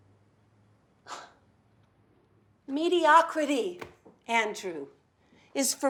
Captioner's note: scoffs